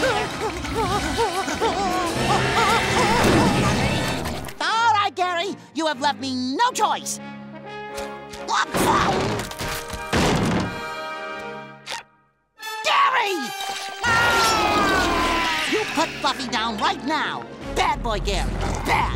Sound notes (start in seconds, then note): 0.0 whimpering; 8.0 grunting